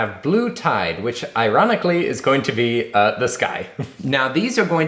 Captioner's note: chuckles